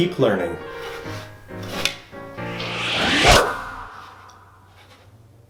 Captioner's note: whooshing noise